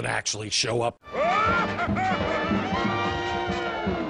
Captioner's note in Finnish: Mielipuolista Naurua